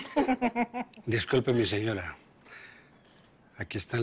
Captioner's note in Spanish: Risas